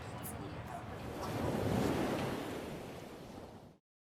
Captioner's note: wind rushing